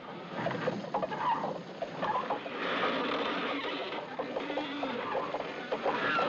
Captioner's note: Cordas rangendo